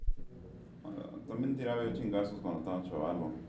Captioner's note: man talking in Spanish